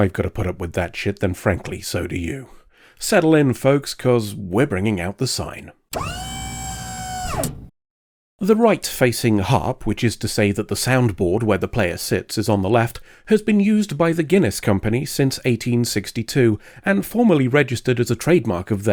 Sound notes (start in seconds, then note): 5.9 hydraulic whine